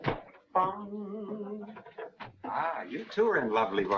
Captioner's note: man humming